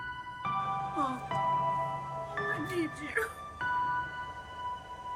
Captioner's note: sobs